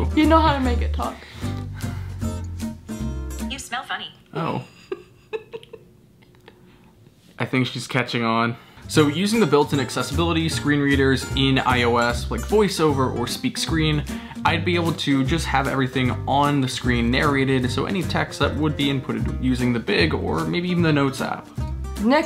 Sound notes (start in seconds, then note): 3.6 robotic App Voice; 4.6 laughing